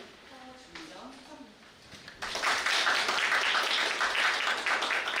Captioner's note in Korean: 박수